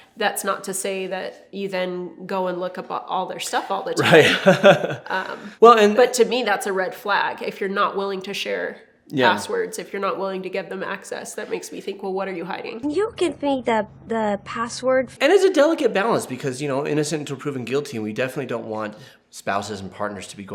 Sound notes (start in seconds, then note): 4.0 laughs